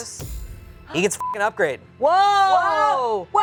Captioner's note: beep